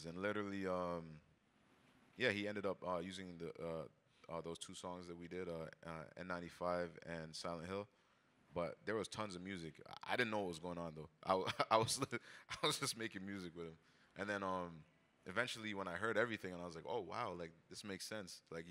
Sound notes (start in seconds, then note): 11.3 chuckles